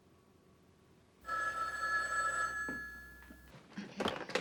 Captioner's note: phone ringing